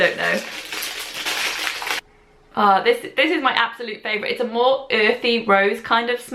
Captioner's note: rustling